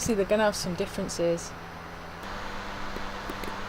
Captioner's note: fan noise increases